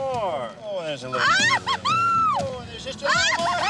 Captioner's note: Jill squeals